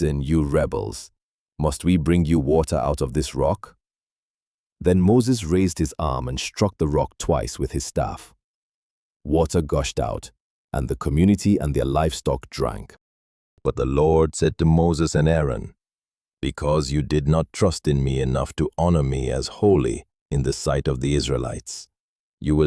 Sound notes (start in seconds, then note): 15.8 sternly